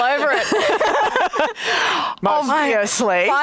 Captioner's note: both laughs